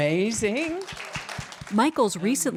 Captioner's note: applause